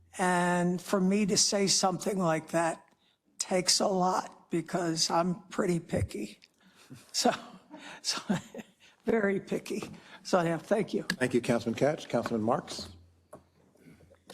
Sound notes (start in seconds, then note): 6.9 laugh